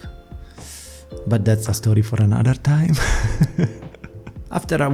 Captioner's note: laughs